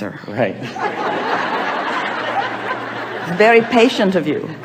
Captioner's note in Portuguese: A platéia ri